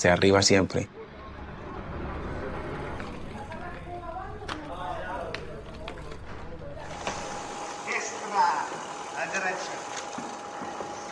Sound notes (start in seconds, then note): 10.2 indistinct chattering